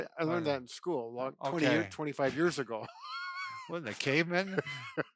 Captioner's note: laughs